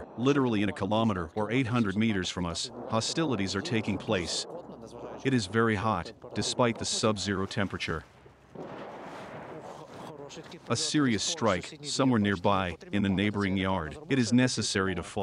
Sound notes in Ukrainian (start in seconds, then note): 8.4 приліт артилерії